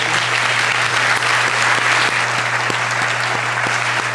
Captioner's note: applause